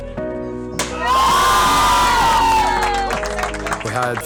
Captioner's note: cheers